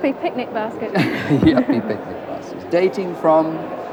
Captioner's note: laughs